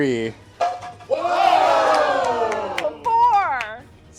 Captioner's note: cheering